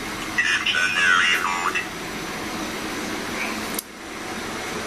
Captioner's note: computer voice